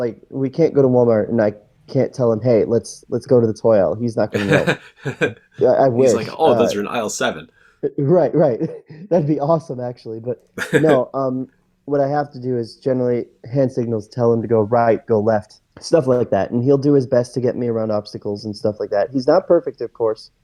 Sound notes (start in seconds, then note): 4.3 laughs